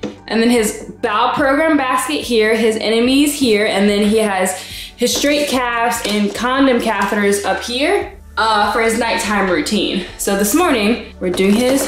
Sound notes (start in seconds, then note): none